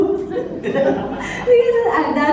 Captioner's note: laughter